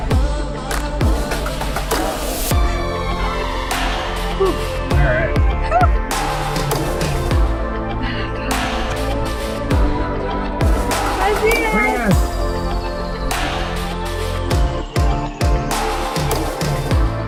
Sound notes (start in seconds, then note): 0.2 high energy electronic music; 5.8 cheers; 6.8 high energy electronic music